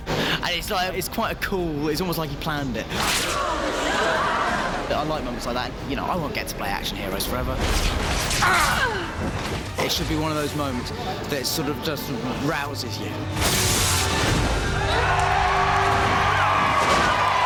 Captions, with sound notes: And it's like-- It's quite a cool-- It's almost like he planned it. [STUDENTS GASP AND MURMUR] I like moments like that. You know, I won't get to play action heroes forever. [WIZARDS GRUNT] It should be one of those moments that sort of just rouses you. [STUDENTS CHEERING]